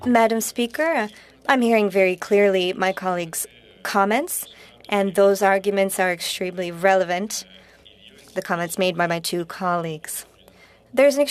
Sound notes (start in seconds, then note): 4.6 speaking French